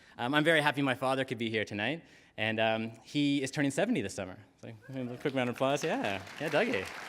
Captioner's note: applause